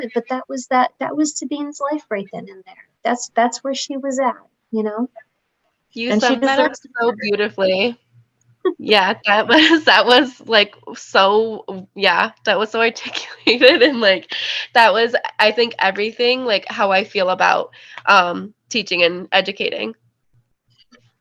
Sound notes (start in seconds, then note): 13.0 laughter